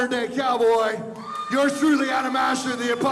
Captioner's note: crowd cheers